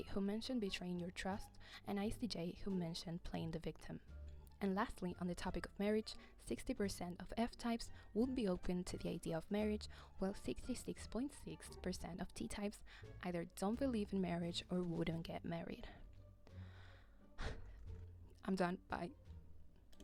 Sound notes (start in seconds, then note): 17.4 sigh